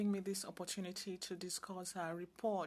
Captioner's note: speaking French